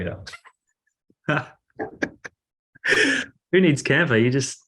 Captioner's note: laughing